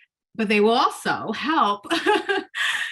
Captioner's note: laughs